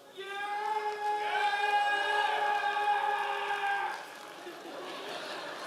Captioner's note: members of the audience cheering